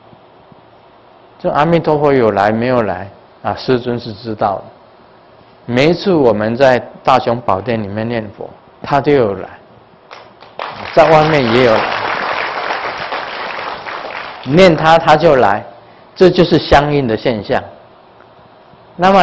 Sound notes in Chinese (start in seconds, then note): 12.7 眾鼓掌